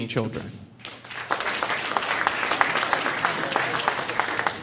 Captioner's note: audience applauding